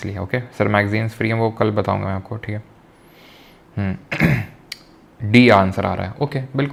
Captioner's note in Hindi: गला साफ़ करने की आवाज़